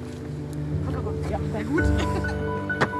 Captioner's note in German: lacht